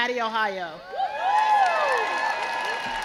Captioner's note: crowd cheers